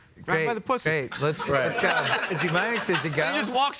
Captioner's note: laughing